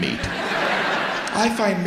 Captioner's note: audience laughs